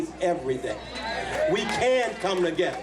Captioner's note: cheers and applause